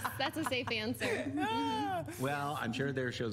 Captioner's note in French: laughter